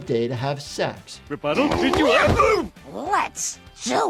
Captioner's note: Homer exclaiming and grunting